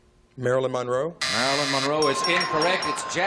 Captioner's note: buzzer